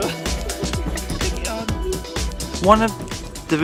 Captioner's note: laughs